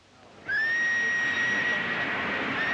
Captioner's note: train whistle blowing